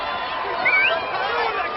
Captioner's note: whistles